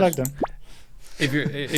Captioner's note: popping